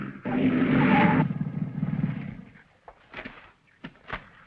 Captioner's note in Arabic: صرير الإطارات